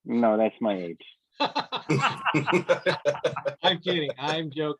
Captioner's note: laughs